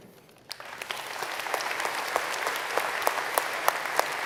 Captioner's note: applause